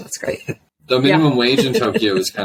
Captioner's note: laughs